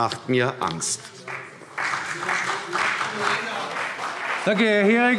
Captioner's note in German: Beifall CDU und vereinzelt BÜNDNIS 90/DIE GRÜNEN